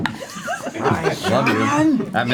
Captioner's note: nerdy voice